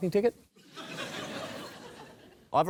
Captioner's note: laughter